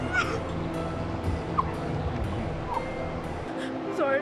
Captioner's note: sobbing